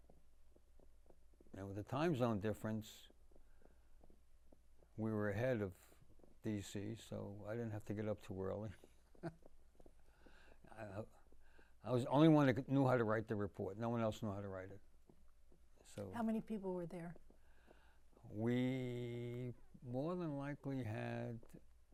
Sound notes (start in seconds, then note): 9.0 laughing